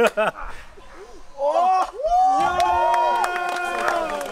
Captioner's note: shouts and applause